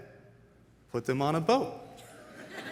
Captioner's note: audience laughs